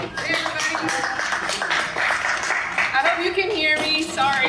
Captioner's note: audience claps